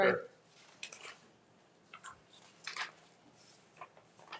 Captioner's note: papers rustling